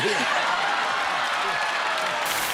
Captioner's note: cheers and applause